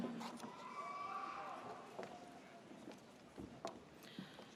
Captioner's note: audience cheers